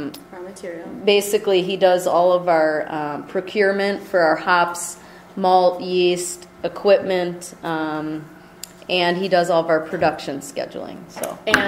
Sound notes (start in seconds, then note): 0.2 voiceover